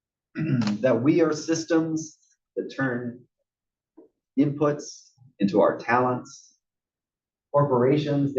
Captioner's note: cough